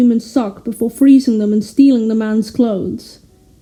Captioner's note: none